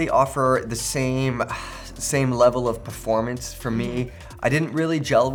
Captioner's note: sighs